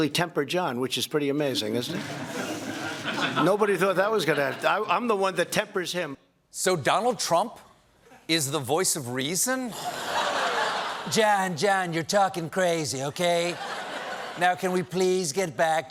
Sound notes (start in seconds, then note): 9.7 laughter